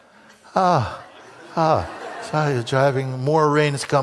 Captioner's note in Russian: имитирует вздох облегчения